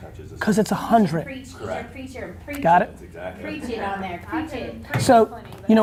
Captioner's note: voices chattering